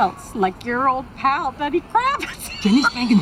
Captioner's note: laughing